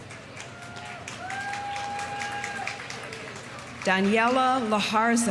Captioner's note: audience applauding; audience cheering